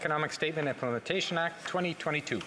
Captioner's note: speaking French